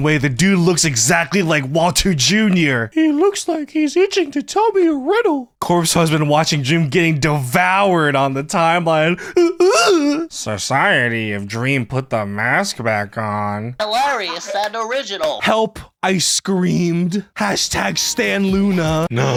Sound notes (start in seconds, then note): 9.5 whimpering